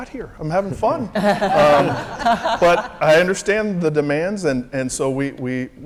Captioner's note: laugh